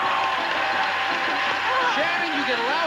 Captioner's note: audience applauding